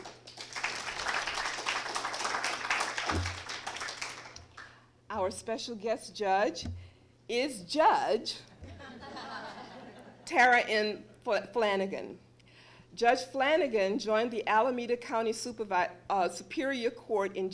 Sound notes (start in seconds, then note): 0.0 applause; 8.6 laughter